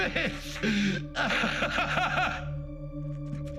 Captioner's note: screaming Pain